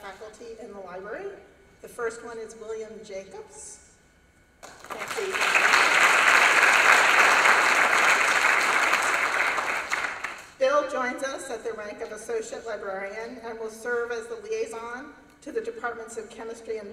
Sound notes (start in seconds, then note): 4.6 applause